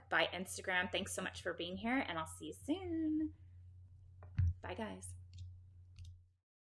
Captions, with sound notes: Bye Instagram. Thanks so much for being here and I'll see you soon. Bye guys. (computer mouse clicking)